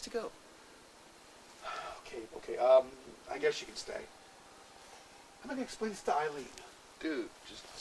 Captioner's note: gasp